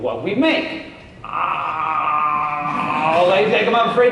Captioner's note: awkward sigh/growl